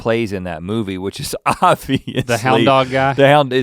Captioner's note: laughs